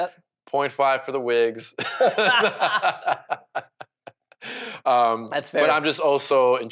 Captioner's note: presenters laughing